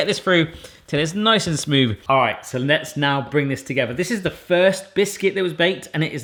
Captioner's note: none